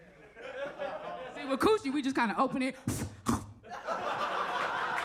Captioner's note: audience laughs; chomps; audience laughs